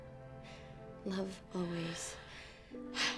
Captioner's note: marie sighs